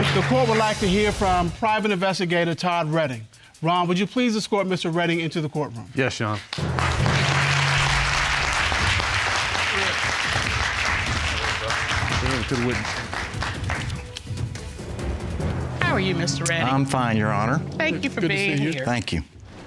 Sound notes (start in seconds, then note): 7.4 audience applauds